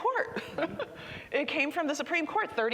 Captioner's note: laughter